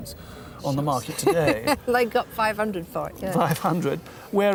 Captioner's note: laughs